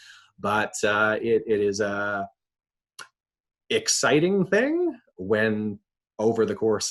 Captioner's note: lips smacking